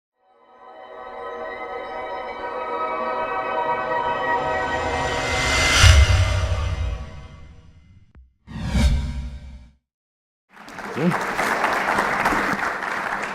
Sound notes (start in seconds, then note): 1.1 increasingly loud tone; 10.5 applause